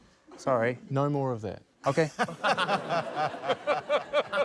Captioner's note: laughter